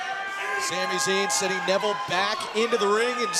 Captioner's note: crowd chatter